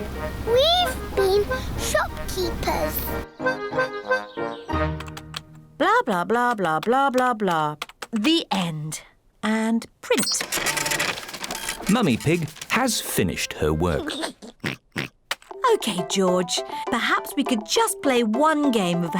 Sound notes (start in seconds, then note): 13.8 giggles and oinks